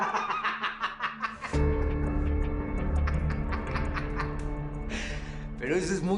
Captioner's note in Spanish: Risas